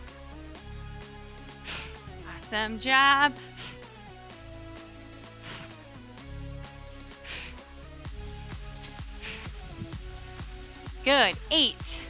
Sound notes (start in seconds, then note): 4.0 upbeat music continues; 5.0 breathing deeply